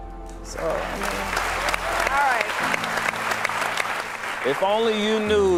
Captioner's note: audience cheering